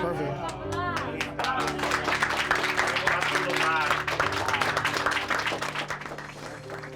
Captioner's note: clapping